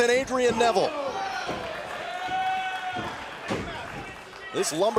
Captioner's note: crowd cheering